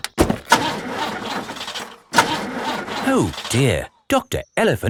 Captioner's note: engine sputtering